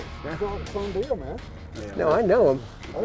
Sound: voiceover

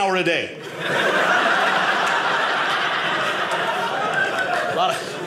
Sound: audience laughing

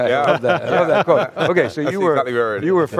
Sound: laughing

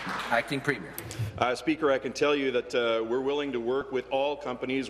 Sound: applause

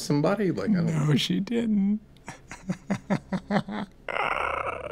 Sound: laughs

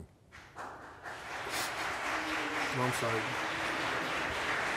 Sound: applauding

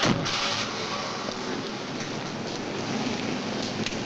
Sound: door slams shut; motor revs

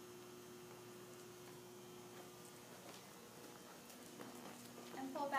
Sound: horse walking

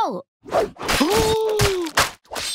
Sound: gasping

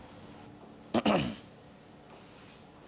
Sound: clears throat

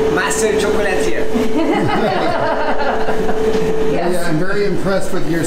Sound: laughing

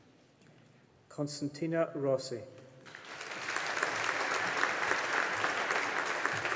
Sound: audience applauding

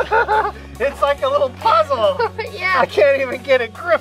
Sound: laughs; laughs

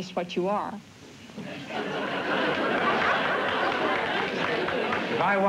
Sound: laughter

